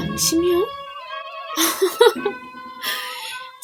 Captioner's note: laughs